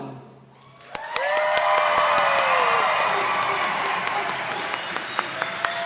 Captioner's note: audience applauding